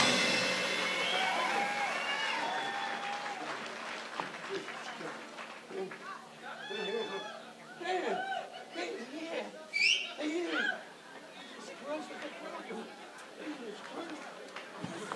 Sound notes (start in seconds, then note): 1.9 audience cheers; 7.8 Don muttering; 11.4 audience cheers